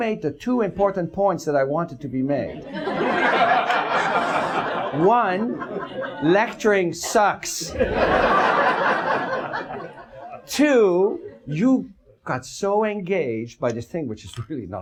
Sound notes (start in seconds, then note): 7.5 audience laughs